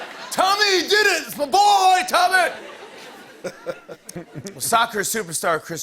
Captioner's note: laughter